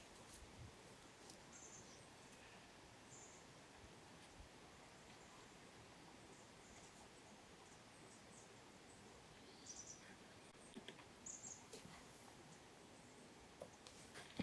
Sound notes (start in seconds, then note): 6.5 birds continuing